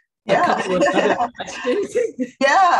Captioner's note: laughing